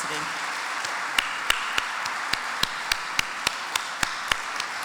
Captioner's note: audience applauds